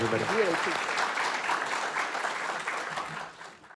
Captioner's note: audience clapping